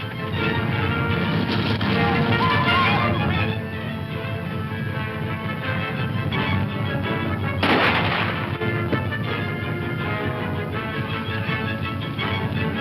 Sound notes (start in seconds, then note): 0.2 upbeat dramatic music; 7.6 gun firing; 9.3 upbeat dramatic music